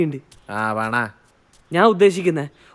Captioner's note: sarcastically